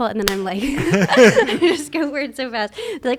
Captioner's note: slaps hands; both laugh